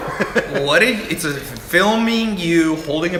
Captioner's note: laughter